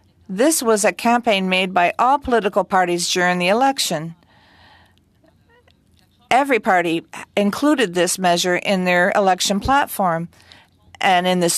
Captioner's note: speaking French